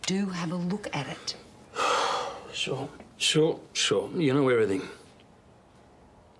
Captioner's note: sighs